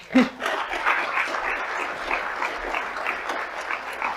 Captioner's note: audience applauds